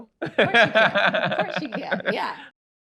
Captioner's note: laughs